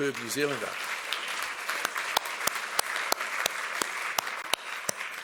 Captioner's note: audience applauds